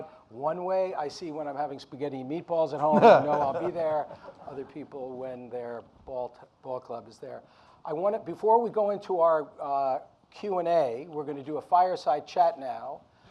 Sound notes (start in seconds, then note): 2.8 Mark laughs